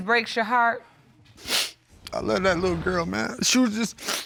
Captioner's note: sniffles